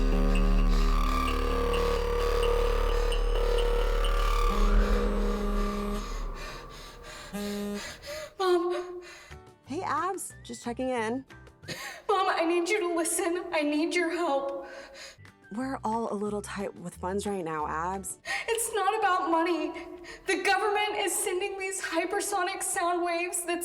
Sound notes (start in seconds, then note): 0.0 urgent music; 5.2 phone buzzes; 6.0 Abby pants; 9.2 cheerful music